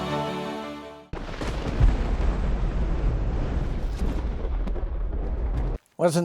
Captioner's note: thunder